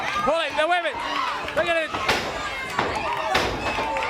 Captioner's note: crowd chatter